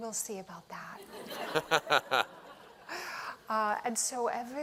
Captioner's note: laughter